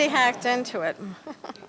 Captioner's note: laughter